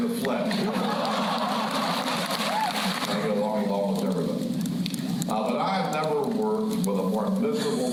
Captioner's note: laughter